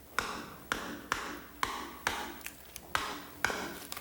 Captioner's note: hammer clacking